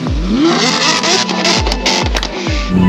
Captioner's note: engine roaring